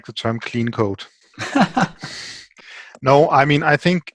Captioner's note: laughing